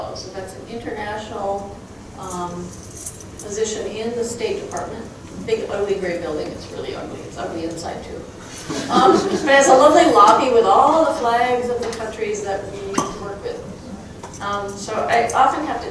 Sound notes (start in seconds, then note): 8.6 crowd chuckling